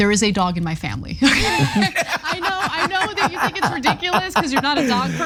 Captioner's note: laugh